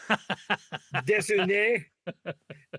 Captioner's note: laughing